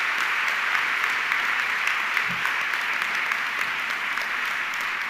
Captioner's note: audience clapping continues